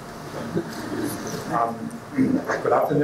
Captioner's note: audience laughing